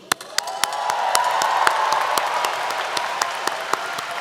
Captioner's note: applause